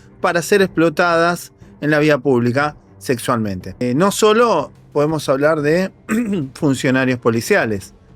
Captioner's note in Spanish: carraspeo